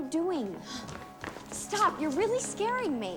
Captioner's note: Eliza gasps softly